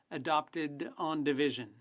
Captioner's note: speaking French